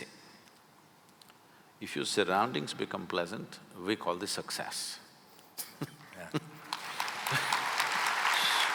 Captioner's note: applause